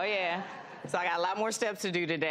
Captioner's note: audience laughs